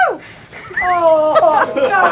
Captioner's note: laughing